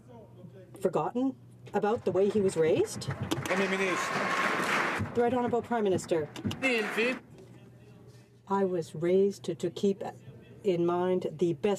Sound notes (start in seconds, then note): 6.2 some Applause